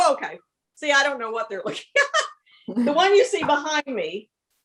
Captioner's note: laughs